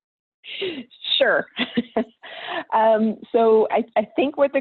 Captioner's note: laughing